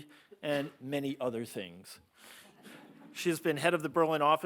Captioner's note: audience laughing